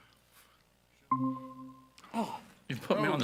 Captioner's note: computer dinging